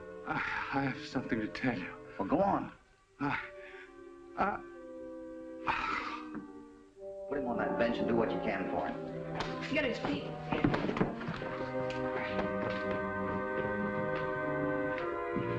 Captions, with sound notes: I have something to tell you. - Go on. - Uh-- [ MOANING ] Put him on that bench, and do what you can for him. Get his feet.